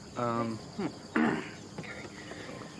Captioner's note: clears throatat